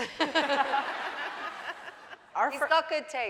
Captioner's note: laughing